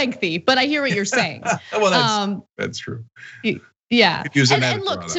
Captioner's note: laugh